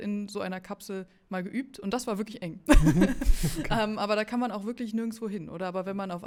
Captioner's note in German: gelächter